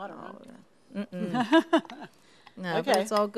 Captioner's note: laughs